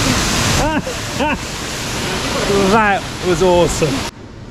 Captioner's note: laughs